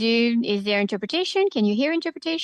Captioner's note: speaking French